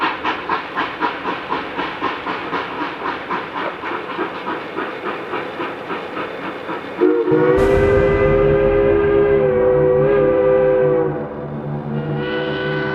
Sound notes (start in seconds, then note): 7.0 train whistle blowing; 7.4 dramatic music